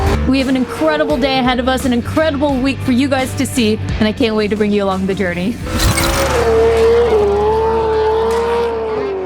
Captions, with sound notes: We have an incredible day ahead of us, an incredible week for you guys to see, and I can't wait to bring you along the journey. (mechanical clicking) (upbeat rock music)